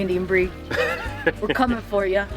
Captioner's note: laughs